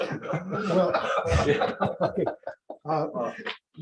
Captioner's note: laughter